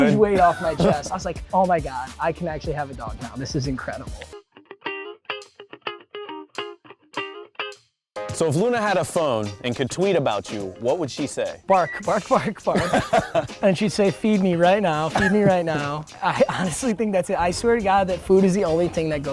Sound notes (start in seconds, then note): 4.6 upbeat pop music; 12.0 laughing